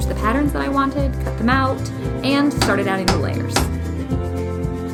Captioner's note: hammering sounds